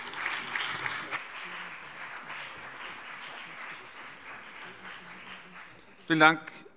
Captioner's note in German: Beifall BÜNDNIS 90/DIE GRÜNEN und CDU